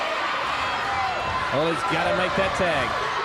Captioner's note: crowd cheering